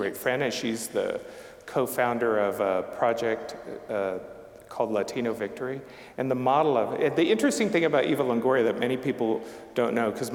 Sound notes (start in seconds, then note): none